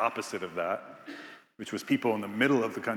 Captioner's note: attendee coughing